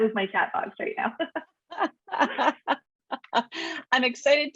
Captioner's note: laughing